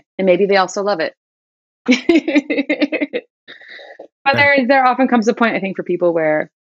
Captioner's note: laughter